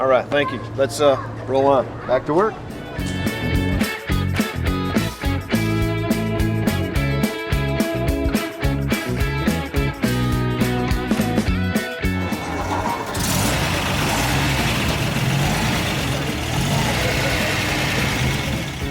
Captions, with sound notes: - Alright thank you, let's roll on. - Back to work. (truck motoring)